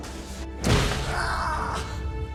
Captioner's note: man screams